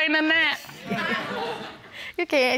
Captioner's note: audience laughing